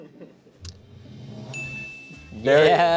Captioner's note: drum roll hisses; bell chimes